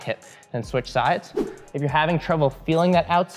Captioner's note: air whooshing